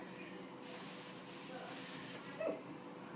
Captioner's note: rustling sound